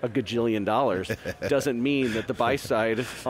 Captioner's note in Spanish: se ríe